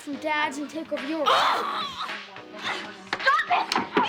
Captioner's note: screams in frustration